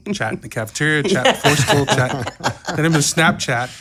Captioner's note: laughs